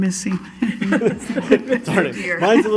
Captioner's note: laughing